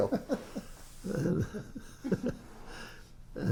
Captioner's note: laughs